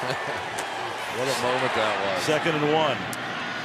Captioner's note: laughs